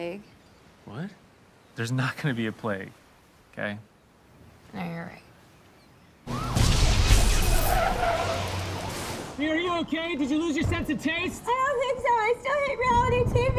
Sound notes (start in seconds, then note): 6.3 siren wailing; 6.3 explosions